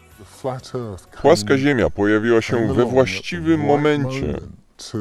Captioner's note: low-pitched voice